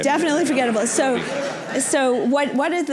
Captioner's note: laughter